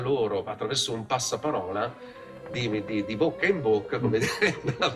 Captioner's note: in Italian”